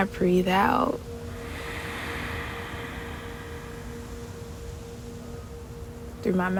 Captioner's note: exhales slowly but intently